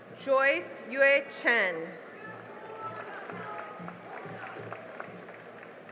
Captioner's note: cheering and applause